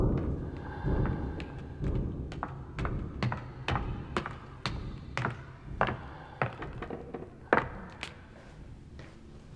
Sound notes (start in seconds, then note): 0.0 footsteps